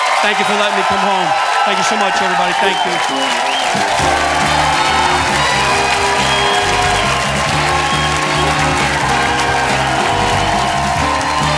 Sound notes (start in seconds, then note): 4.8 audience applauding; 4.8 lively music